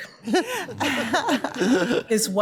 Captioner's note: justices laughing